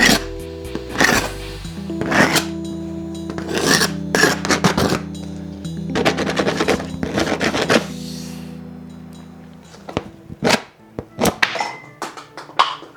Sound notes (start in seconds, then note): 0.7 scraping